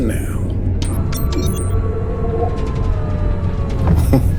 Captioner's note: system beeping